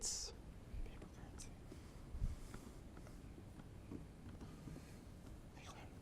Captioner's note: contestants whispering